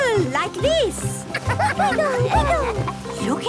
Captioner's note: laughter